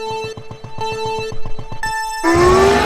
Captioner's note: beeps countdown; kart accelerate